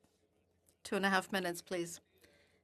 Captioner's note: speaking French